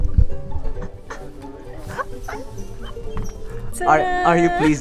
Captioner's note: laughter